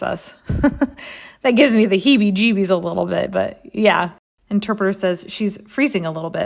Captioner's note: laugh